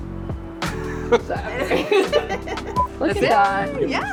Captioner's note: group chuckling